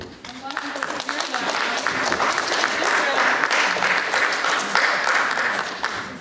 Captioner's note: audience applauding